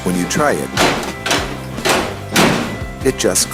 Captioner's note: metallic clanging